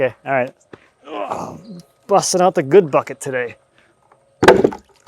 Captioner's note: grunting